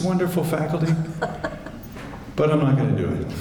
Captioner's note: chuckles